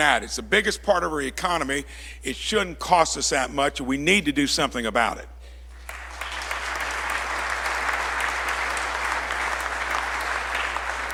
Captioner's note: applause